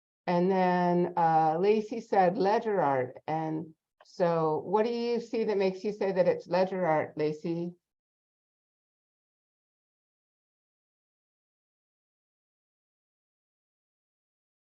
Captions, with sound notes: And Lacey said Ledger art and so what do you see that makes you say that it's ledger art Lacey? (silence)